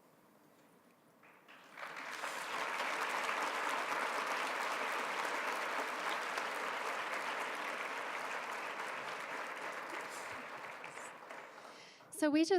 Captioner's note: applause